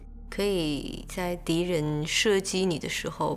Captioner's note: speaking маndarin